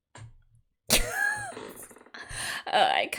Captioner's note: laughs